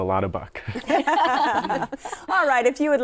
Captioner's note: laughter